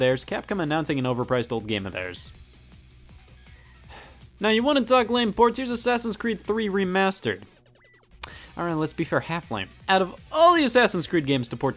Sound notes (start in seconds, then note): 3.8 sighing